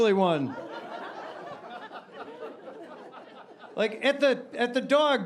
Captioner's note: audience laughing